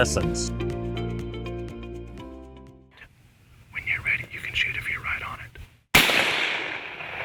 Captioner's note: whispering